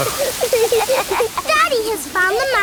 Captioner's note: laughing